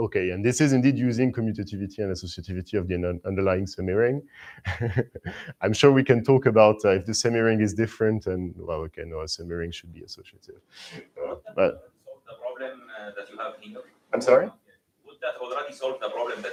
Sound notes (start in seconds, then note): 4.4 chuckles